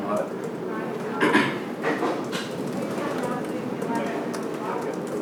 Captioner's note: crowd chatter